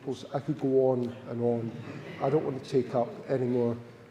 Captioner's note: audience chuckles